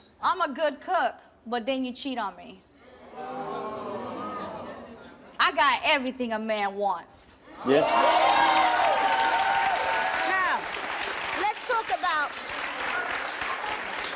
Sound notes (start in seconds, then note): 3.2 audience groans; 7.7 audience applauds